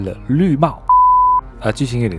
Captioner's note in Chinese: Beep…